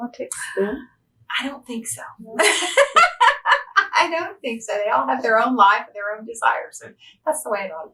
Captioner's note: laughs